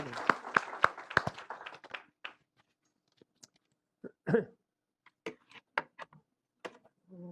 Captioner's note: applause